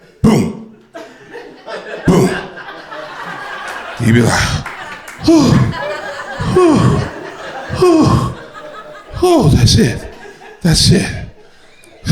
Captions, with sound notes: poo poo. (crowd laughter) You be like, (sighs) Hoo! That's it. That's it.